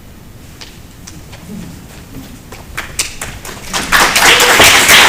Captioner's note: applause